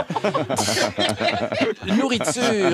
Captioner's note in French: rires